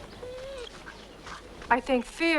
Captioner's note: Beast whines